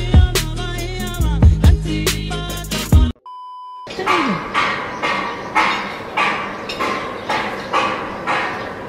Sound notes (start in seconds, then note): 3.2 beep; 4.0 loud, hammering metal